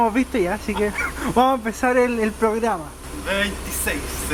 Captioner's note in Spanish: Risas